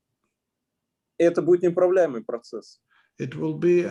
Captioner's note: speaking Russian language